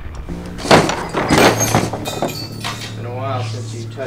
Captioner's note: tools thudding